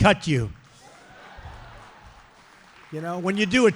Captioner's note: applause